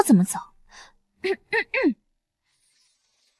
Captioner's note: cough cough